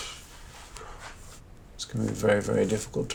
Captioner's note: Noel blows raspberry